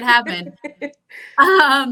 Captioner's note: laughs